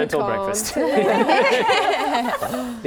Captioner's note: laughing